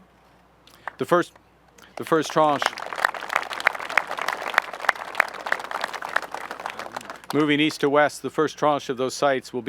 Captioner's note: applause